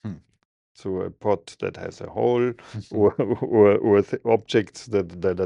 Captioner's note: laughing